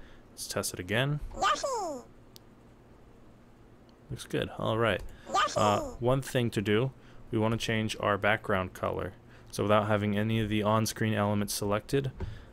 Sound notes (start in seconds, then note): 1.3 Yoshi noise; 5.2 Yoshi noise